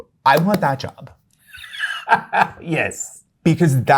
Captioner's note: laughter